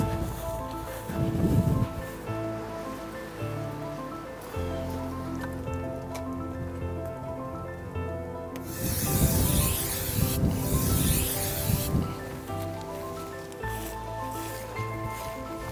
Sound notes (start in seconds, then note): 0.1 piano music; 8.6 aerosol spraying